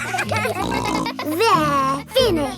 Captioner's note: kids giggling